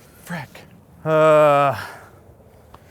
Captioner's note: sighs